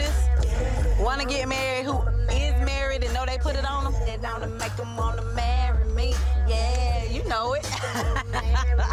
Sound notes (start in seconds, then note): 7.4 laughs